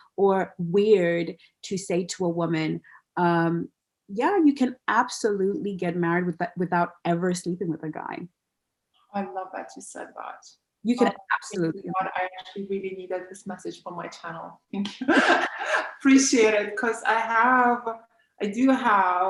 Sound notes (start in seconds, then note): 15.0 laughs